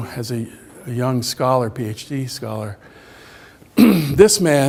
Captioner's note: clears throat